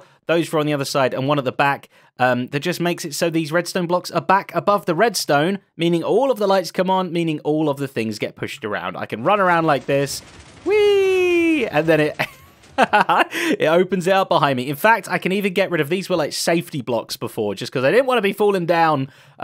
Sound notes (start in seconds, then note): 12.7 laughs